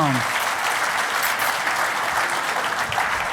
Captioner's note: applause